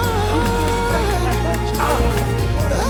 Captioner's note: Florio grunts and groceries fall on the floor